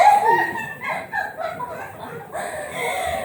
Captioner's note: laughs